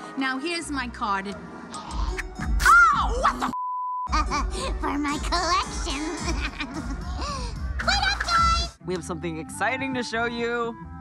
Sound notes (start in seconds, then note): 3.5 beep; 5.7 laughs